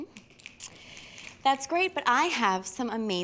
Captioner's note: fingers snapping